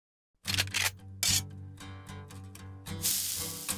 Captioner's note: cocking gun